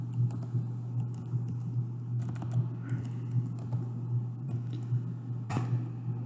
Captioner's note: typing